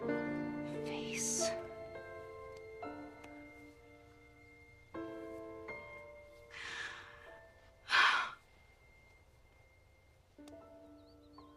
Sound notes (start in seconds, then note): 7.8 sighs